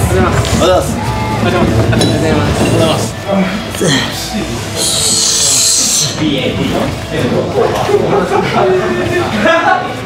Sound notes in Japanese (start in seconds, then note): 3.3 荒い息の音